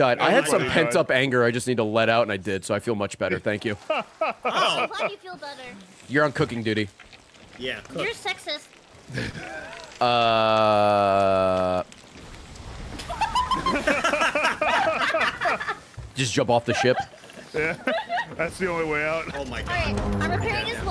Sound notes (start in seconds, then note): 12.2 laughs